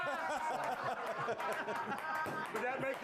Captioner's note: laughter